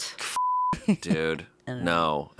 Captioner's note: beeping